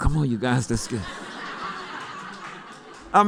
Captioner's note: laughter